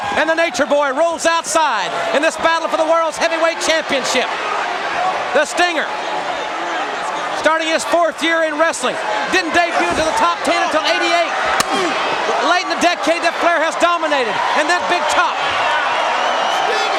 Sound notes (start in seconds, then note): 11.5 chop striking